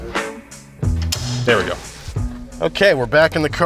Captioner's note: metal clicks